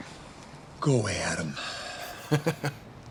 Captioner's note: sighs